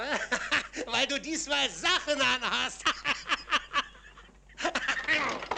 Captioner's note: laughs